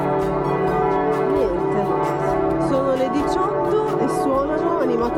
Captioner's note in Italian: campana